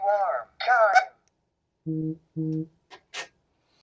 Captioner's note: low beep